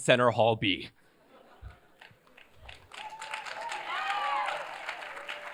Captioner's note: cheers, applause